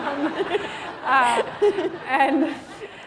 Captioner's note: laughter